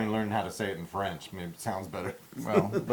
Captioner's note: laugh